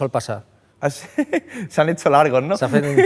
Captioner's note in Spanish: ríe